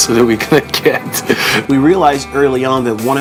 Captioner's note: laughing